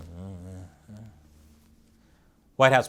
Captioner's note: mumbles